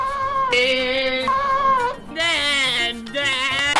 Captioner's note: screaming